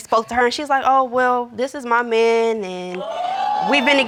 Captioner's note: audience exclaims